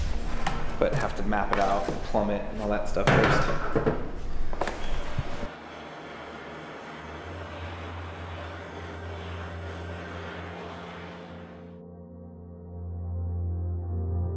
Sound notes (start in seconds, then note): 5.4 torch burning; 11.7 soft music